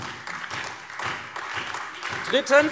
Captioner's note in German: Beifall SPD, AfD und Freie Demokraten